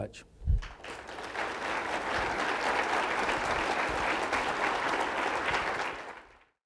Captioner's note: hand Claps